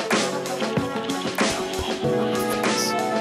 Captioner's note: whisper